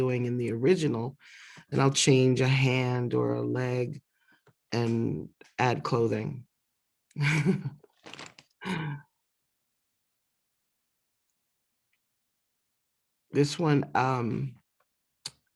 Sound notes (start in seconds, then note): 7.2 laughter